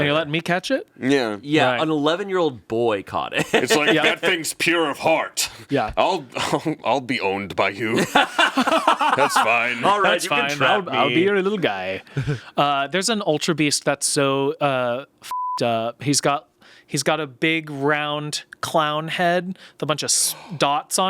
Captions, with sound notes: - And you're letting me catch it? - Yeah. - Yeah, an 11-year-old boy caught it. - It's like, that thing's pure of heart. I'll be owned by you. (everyone laughs) That's fine. - All right, you can trap me. - I'll be your little guy. There's an Ultra Beast that's so (beep) up. He's got a big round clown head with a bunch of dots on it.